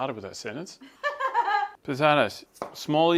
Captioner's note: laughs